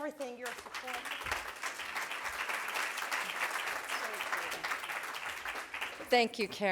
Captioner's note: clapping